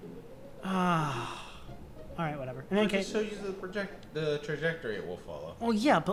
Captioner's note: sigh